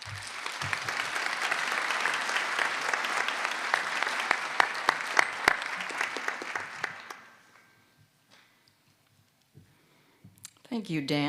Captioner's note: applause